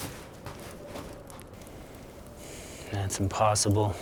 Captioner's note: footsteps thudding